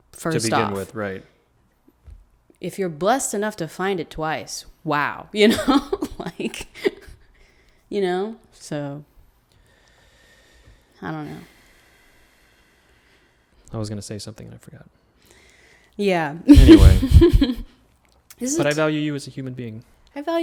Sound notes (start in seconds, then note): 6.5 laughs; 16.5 laughs